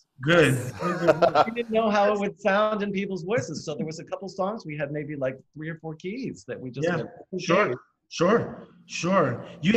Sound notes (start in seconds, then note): 0.6 laughing